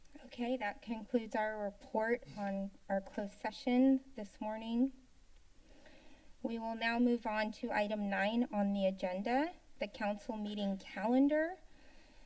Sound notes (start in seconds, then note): 4.9 pause; 12.0 pause